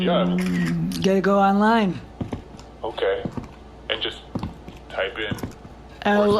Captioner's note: sips drink